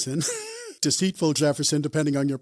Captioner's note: laughs